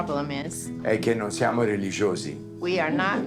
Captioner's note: Dario speaking Italian